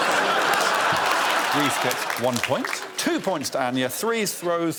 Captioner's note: laughter